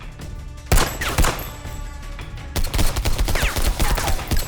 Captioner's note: gun firing